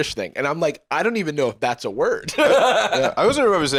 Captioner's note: laughs